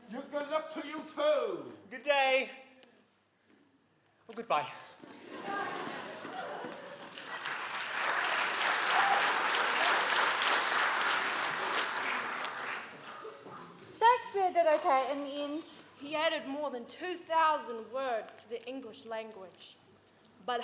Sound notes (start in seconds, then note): 5.1 audience laughing; 6.1 audience applauding